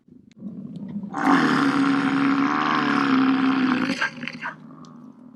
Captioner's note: buffalo sharply grunting